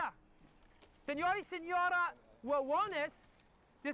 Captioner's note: hablando español